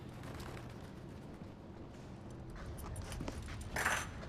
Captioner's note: handcuffs clatter